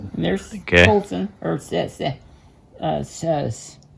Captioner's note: stutters